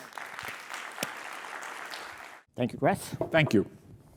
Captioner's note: audience applauding